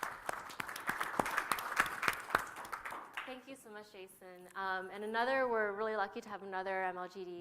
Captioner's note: applause